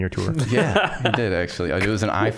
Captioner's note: laughing